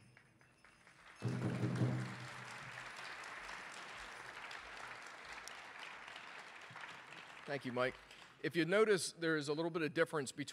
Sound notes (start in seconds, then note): 0.8 audience applauding